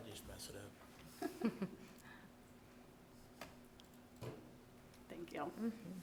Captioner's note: people chuckling